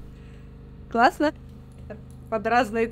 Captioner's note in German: Sie spricht Ukrainisch